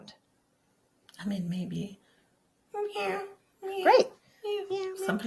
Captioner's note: makes cat sounds